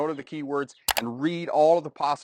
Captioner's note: mouse clicks